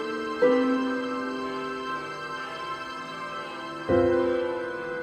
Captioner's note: church bell clanging